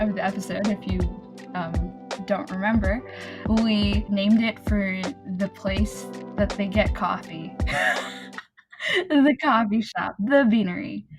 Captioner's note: wheeze